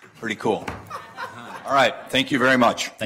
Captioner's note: laughter